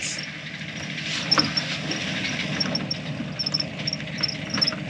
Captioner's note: engine revving